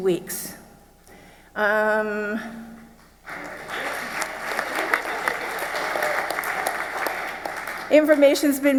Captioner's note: clapping